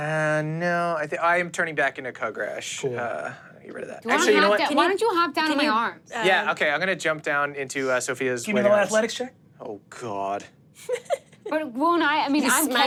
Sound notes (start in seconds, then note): 10.8 chuckles